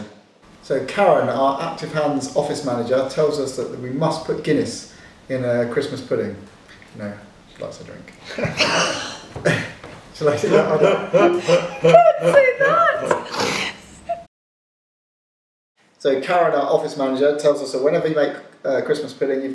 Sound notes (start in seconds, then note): 10.2 laughing